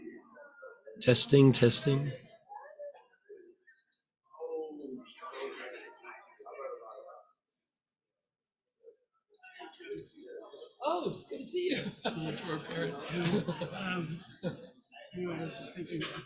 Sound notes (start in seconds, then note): 5.5 indistinct crowd chatter; 15.2 laughs